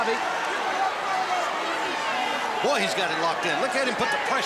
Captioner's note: crowd chatter